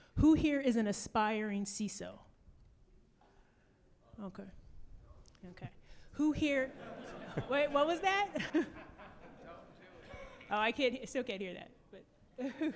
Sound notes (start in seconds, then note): 6.6 audience laughing